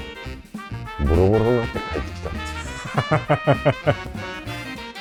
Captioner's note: laughs